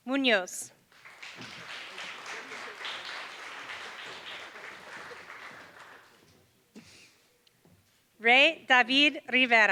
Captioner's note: applause